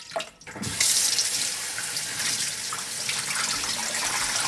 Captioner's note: water running